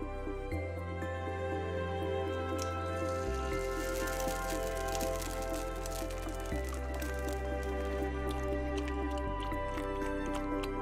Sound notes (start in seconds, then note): 2.4 egg sizzling; 8.1 milk pouring